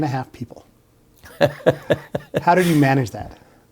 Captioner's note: laughs